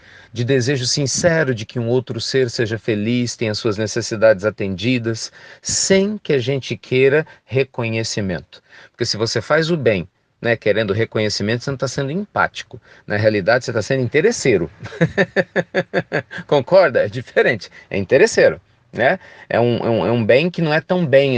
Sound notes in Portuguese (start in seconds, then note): 14.8 Risos